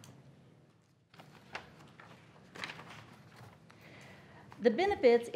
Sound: papers shuffling and rustling

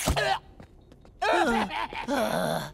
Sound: laughing, groaning

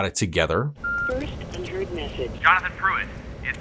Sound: voicemail beep

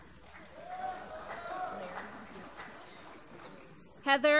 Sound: applause

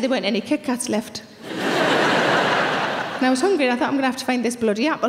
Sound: audience laughing

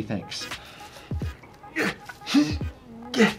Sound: grunting

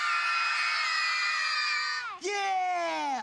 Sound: screaming

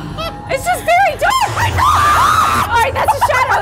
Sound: screaming

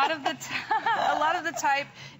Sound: laughter

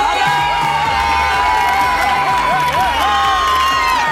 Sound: audience cheering

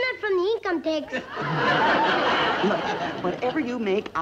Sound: audience laughs

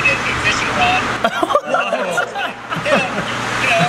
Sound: laughing

